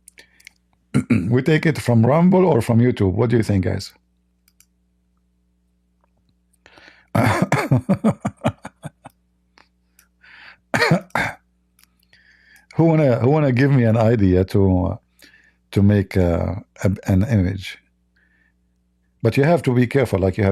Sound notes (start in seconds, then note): 7.2 Ketawa